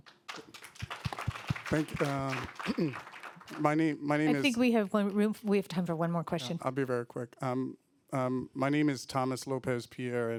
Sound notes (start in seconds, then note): 0.0 applause; 6.6 voiceover